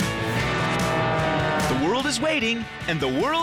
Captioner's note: plane engine